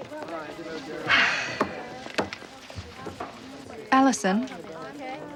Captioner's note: Amanda sighs